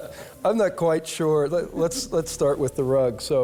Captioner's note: laughter